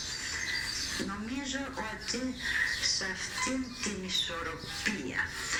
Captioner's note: speaker speaks Greek